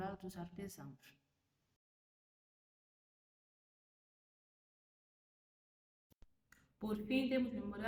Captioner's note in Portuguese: Sem som